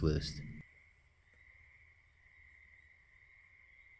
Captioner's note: nocturnal animal noises